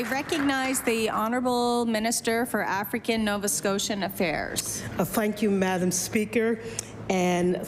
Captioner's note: applause